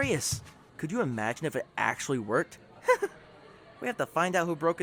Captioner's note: laughs